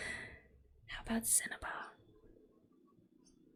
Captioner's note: whispers